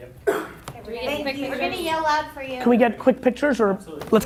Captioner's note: voices chattering